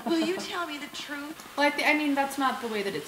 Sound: voiceover

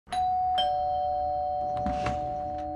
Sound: doorbell rings

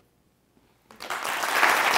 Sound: clapping

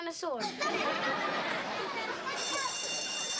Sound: bell rings

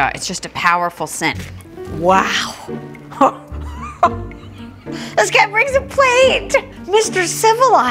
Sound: laughs

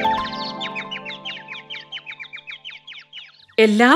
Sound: birds chirping

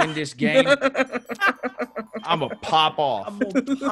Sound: laugh

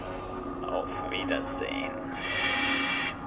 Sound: speaks in German

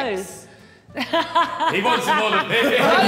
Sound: woman laughing

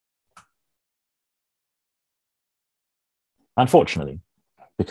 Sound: mouse clicks

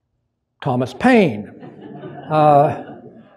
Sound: laughter

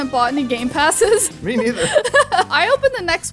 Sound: laughing amusingly

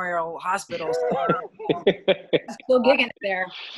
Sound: laughing

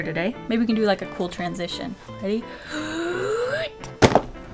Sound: deep breath

